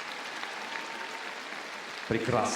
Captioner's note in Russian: аплодисменты